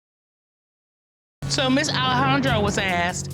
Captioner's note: audience laughing